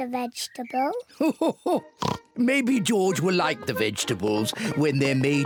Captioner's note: laughs